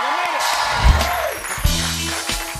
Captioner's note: cheers and applause